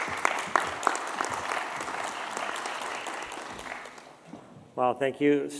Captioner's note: applause